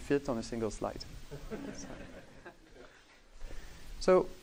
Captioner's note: laughing